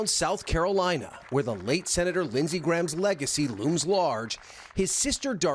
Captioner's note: applause